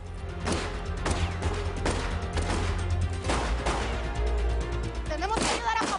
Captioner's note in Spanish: Disparos